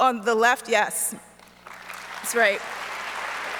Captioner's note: audience applauds